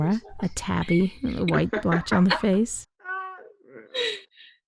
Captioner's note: laughs loudly